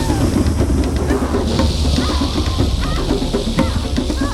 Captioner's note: screaming